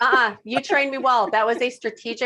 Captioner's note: laughing